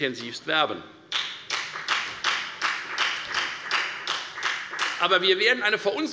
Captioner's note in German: Beifall bei der FDP